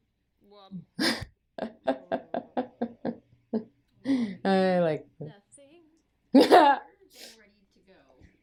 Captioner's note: laughter; laughs loudly